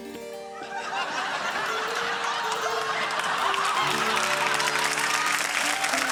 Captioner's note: laughter, applause